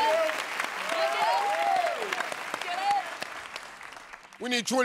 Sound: applause

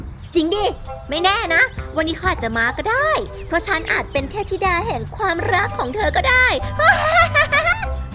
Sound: laughs; gasps

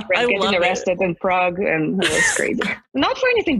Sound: laughs

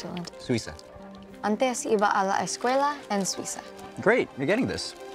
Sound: speaks Spanish

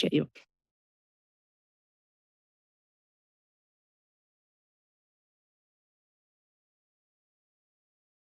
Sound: silence

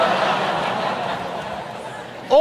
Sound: audience laughs

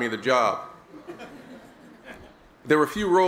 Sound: laughter

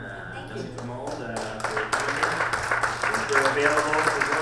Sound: audience applauds

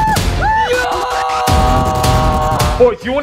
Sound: shouting

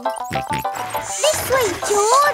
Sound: george snorts

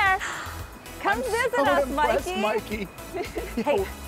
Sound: laughter

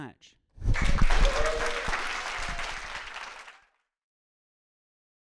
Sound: audience applauding; audience cheering

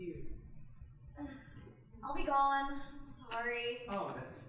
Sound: sighing

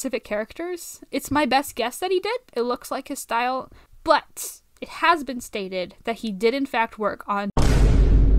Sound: SFX Boom

